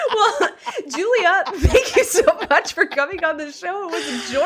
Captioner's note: cackling